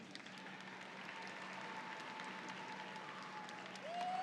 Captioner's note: audience applauds